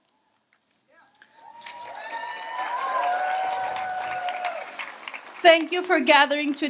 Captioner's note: audience applauds and cheers